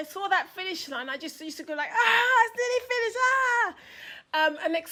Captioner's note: screams